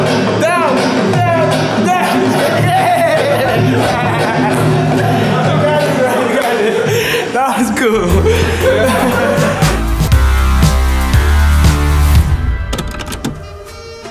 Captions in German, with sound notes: Yeah! You got it. (Lockere Musik) (Klackern)